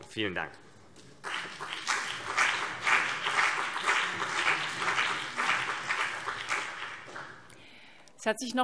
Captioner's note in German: Beifall CDU und BÜNDNIS 90/DIE GRÜNEN